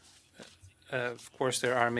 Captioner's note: speaking French